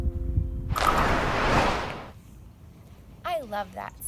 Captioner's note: whooshing